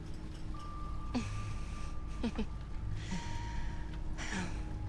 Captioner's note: Isabelle chuckles